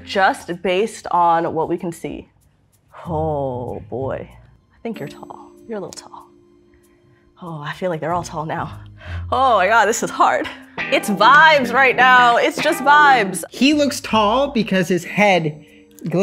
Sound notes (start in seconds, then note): none